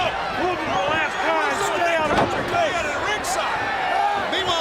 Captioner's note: shouting